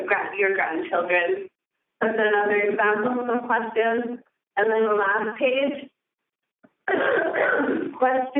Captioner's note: coughing